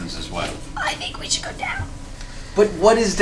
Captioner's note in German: leise